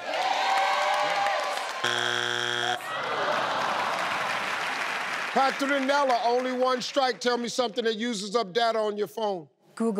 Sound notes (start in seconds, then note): 0.0 cheering; 1.8 buzzing